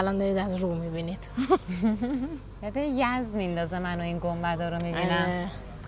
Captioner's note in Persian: خنده